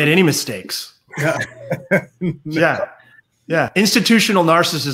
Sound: laughs

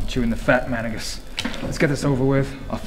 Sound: card hits table

